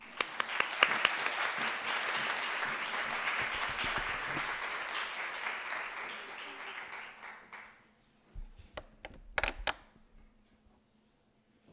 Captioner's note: applause